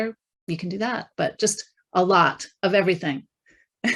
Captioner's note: chuckling